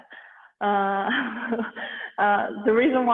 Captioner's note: chuckles